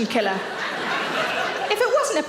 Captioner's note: audience laughing